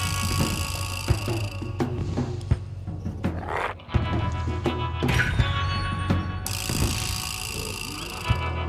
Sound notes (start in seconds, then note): 2.4 intense music continues; 3.3 Smelly growls